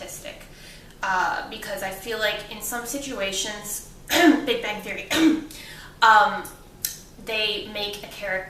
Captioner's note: cough